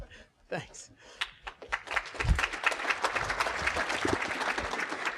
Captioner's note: applause